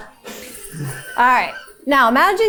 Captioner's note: chuckling